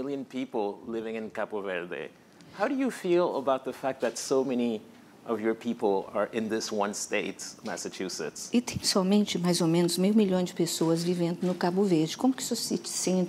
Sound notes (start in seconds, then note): 9.4 speaking portuguese